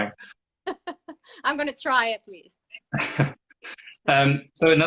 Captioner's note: laughing